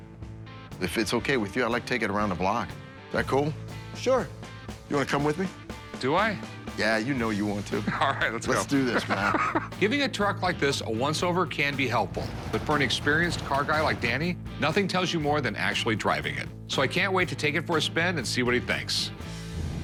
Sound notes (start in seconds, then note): 7.8 laughs